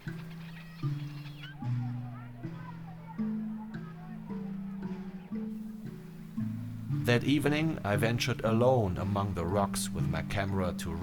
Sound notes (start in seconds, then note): 2.0 indistinct chatter